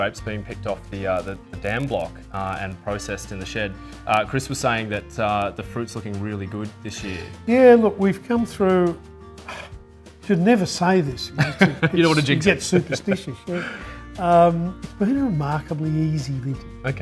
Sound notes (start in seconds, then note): 9.4 sighs; 11.3 laughing